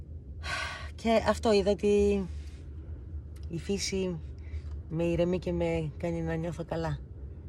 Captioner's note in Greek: αναστενάζει